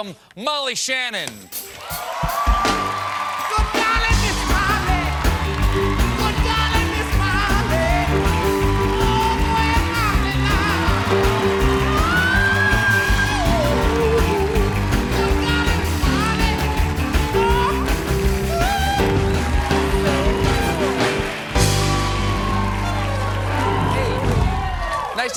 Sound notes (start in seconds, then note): 5.5 band playing; 5.5 cheers and applause; 15.5 band playing; 15.5 cheers and applause